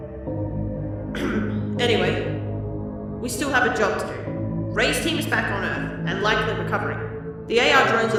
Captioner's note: ahem